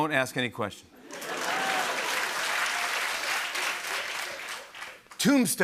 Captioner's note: laughter and applause